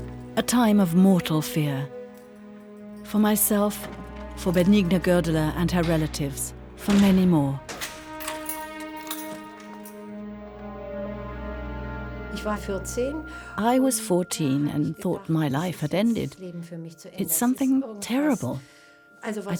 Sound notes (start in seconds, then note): 7.7 lock clicks; 8.6 somber music; 12.2 speaks in foreign language